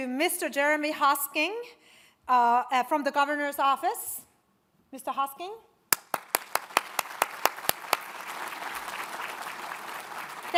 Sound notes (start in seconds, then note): 5.9 all applaud